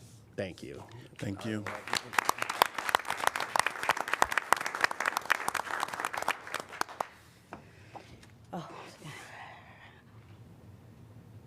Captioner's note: applause